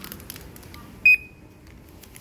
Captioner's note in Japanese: 商品のバーコードスキャン音